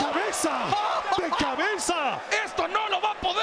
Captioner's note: laugh